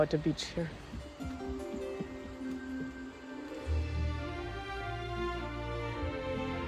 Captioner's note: feet pattering; tranquil music